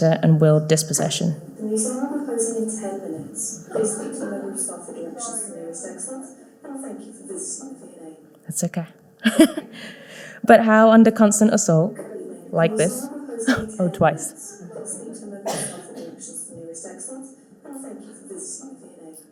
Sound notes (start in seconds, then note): 1.8 PA system faintly speaking; 9.2 chuckles; 14.6 PA system faintly speaking